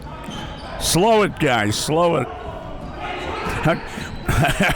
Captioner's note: laughs